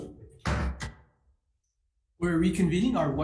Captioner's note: gavel bangs